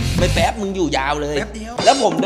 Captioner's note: pat